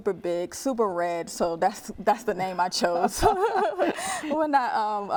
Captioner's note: laughing